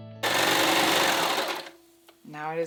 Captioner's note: soft music; machine clanking